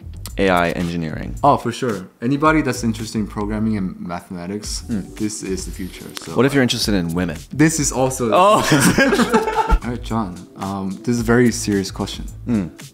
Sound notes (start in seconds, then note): 8.6 laughs